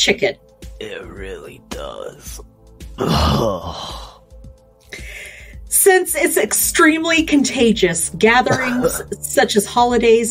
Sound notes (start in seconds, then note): 8.2 coughs